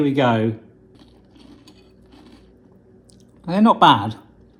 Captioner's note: crunching